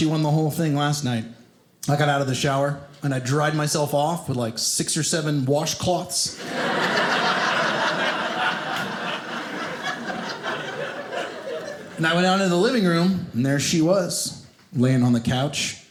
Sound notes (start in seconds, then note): 6.3 audience laughing